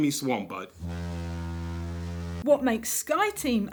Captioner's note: ship horn